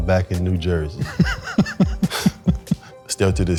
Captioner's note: laughing